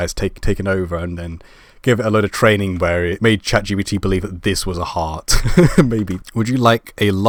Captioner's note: laugh